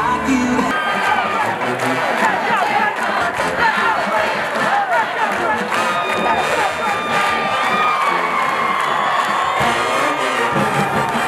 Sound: stadium cheers

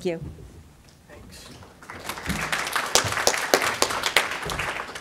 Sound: audience applauding

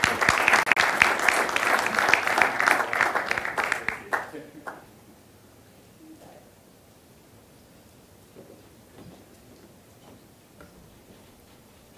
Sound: applause

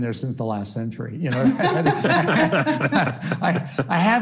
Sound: all laughing

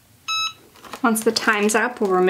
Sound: press beeps

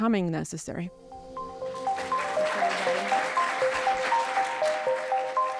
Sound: audience applauding

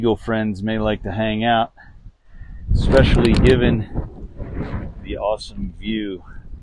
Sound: wind noise

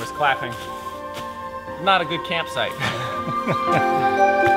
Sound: both laugh

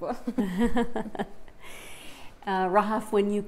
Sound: both chuckle

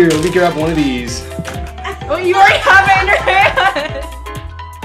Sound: everyone laughing

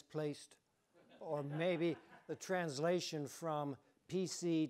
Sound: audience chuckling

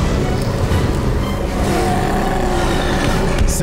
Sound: growling

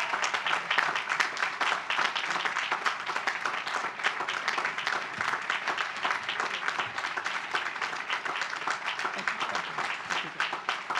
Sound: applause

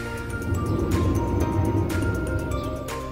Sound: sound of sliding gate in the back ground, again!

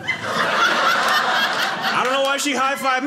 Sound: audience laughing

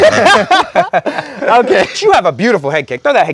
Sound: laugh

